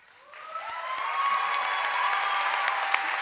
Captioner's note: cheering and applause